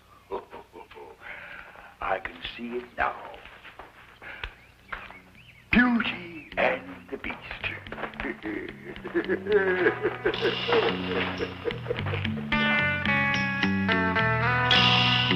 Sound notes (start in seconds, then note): 0.2 laughs; 8.0 laughs; 12.2 mysterious music